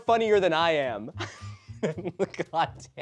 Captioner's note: chortle